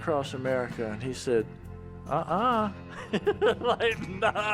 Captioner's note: laughing